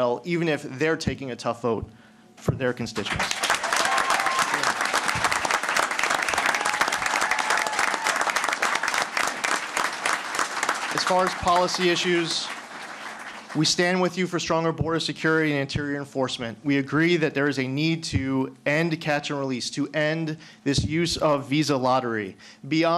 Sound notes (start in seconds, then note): 3.0 applause